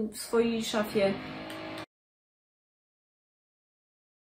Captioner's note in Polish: znowu wiertarka